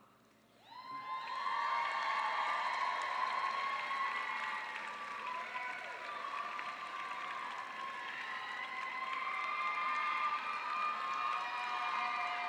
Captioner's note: cheering